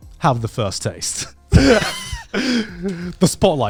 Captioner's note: wheezing